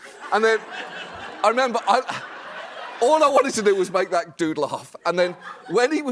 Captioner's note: laughter